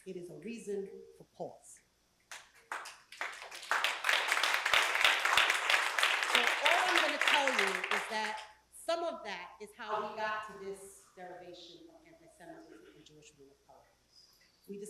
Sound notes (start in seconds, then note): 2.3 applause